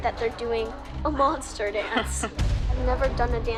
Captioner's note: laughs